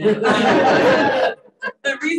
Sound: audience laughing

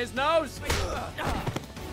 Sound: punching

